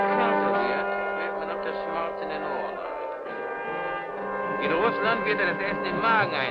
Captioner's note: speaking in a foreign language